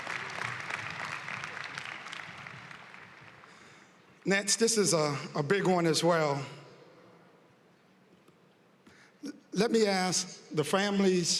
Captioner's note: applause